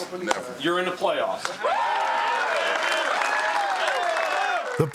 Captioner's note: cheers and applause